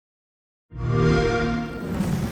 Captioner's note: xbox sound